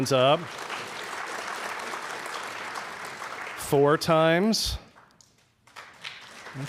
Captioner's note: applause